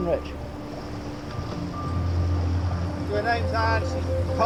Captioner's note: intense music; water trickles